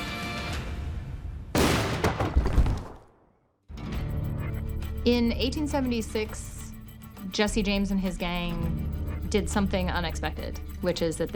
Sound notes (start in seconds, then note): 1.5 gunshot